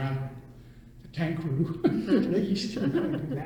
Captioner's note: all laugh